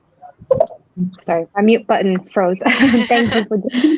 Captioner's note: everyone laughing